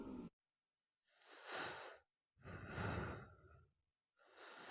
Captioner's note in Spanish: respirando